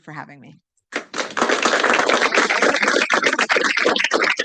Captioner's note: applause